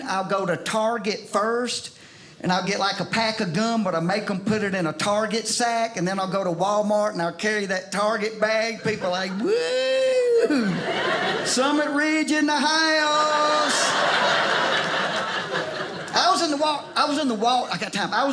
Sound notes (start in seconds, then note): 13.0 audience laughing